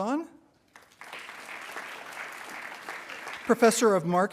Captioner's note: attendees applauding